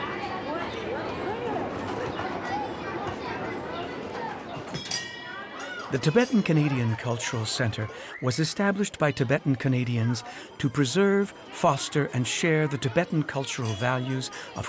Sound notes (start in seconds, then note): 0.1 children chatting; 0.1 prayer wheels rumbling; 4.7 bells jingling